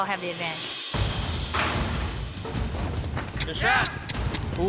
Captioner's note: gates clank open